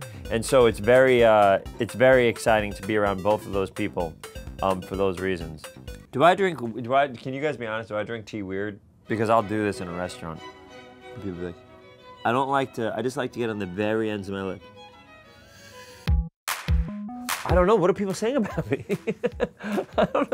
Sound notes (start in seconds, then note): 15.2 sipping tea; 16.4 upbeat music; 18.4 laughing